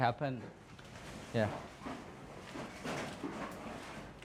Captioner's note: construction sounds